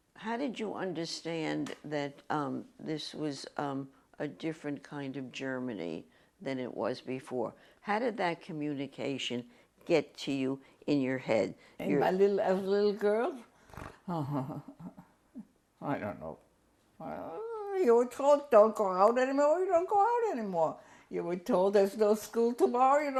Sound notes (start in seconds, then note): 13.8 laughs